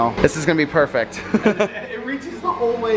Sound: chuckles

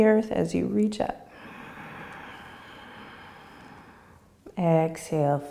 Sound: inhaling

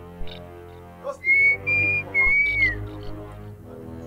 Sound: whistling

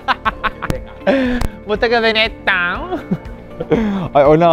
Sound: laughs

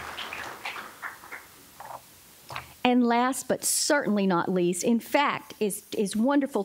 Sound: applause

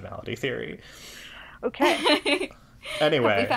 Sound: laughs

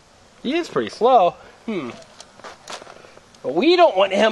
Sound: voiceover

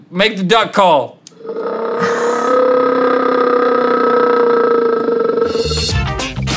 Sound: bear Roar; intro music

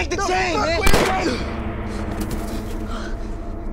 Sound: gun firing

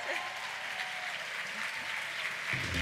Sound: applause

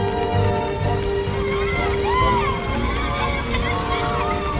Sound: clamoring

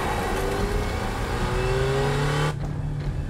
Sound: car revving

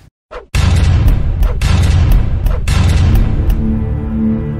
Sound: logo crashes; resonating music

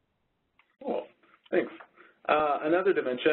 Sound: voiceover

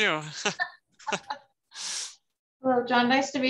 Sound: laughing

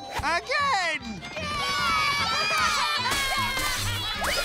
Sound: cheering

